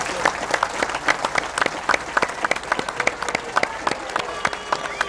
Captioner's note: applause